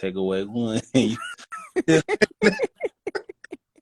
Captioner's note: laughter